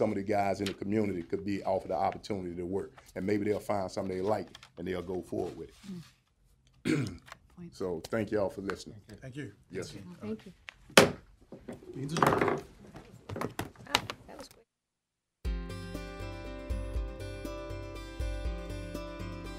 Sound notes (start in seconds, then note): 10.9 gavel banging